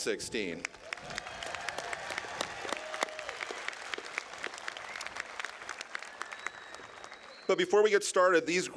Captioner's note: applause